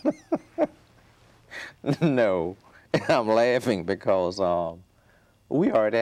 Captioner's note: laughing